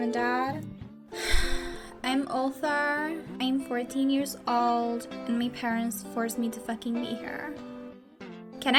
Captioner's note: sigh